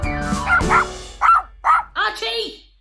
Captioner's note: barking